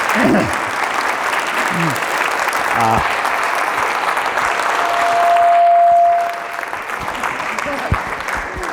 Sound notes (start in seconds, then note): 4.6 audio feedback